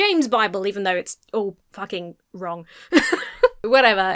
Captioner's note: laughs